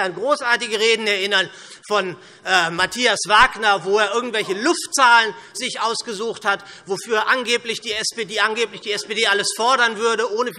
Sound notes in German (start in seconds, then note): none